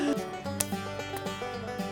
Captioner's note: laughter; hands slapping